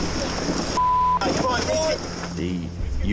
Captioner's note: beep